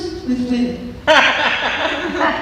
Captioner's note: laughter